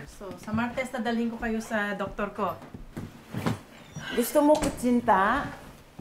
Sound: Criselda and Maricel speak Tagalog

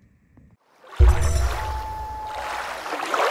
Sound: water rushing, loon calling

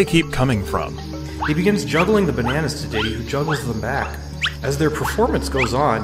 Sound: cartoon wooshing noises

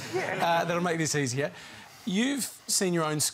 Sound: laughter

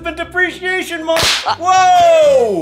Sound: pop

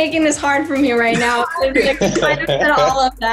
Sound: laughing

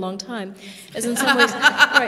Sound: laughter

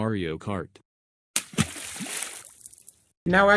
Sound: liquid splash

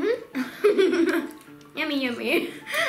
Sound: laughing

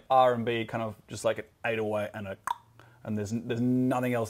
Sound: imitates beat

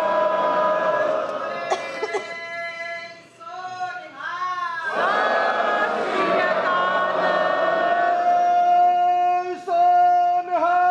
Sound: cheers and chants in unison

